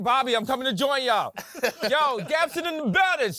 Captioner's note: laughing